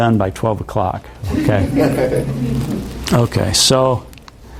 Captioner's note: audience chuckles